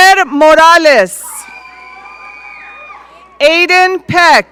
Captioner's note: audience cheering